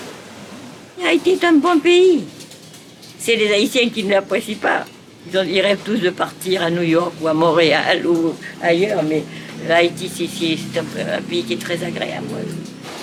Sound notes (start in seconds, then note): 1.1 French spoken audio